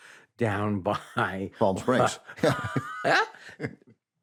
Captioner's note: laughs